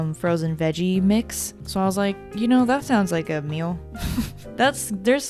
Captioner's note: laughs